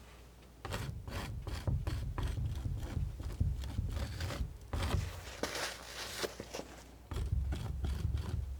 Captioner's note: scratching